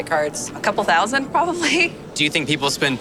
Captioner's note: laughs